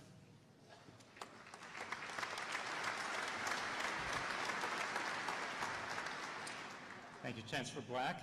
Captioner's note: applause